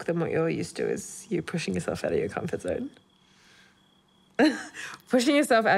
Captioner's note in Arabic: يضحك